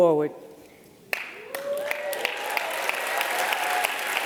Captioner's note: applause